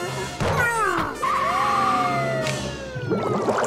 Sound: groaning; siren blaring

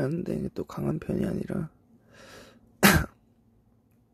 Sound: sneezing

